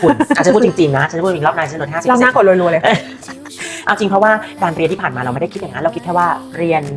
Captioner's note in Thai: เสียงหัวเราะ